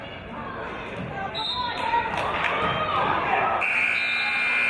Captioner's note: referee's whistle; buzzer; referee's whistle